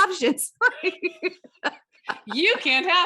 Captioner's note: both laughing